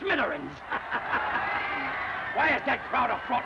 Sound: crowd cheering

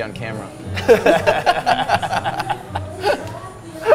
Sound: both laugh

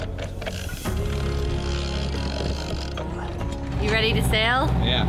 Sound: winch clicking

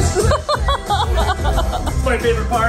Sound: laughing

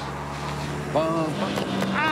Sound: paintballs firing

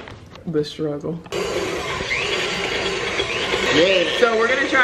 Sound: mixer mixing

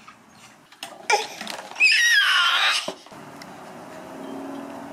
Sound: baby yells; plastic clicks together; baby grunts and wails; engines roar distantly

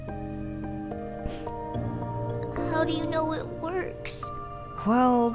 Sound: sniff

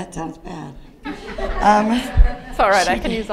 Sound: audience laughing

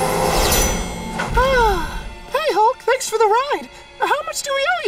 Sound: roaring; sighs

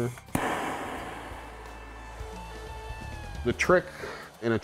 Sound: whoosh! hissing of the flame

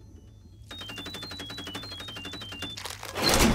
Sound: beeping

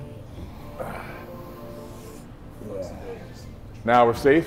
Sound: heavy breathing and huffing

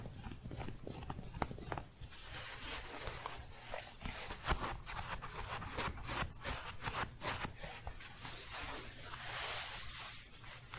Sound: scratching and shuffling

